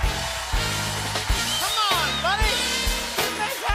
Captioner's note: whistling